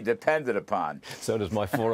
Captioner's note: laughter